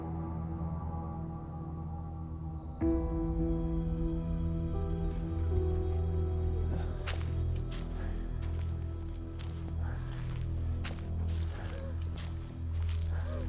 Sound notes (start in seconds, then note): 2.1 dramatic music; 2.1 footsteps crunching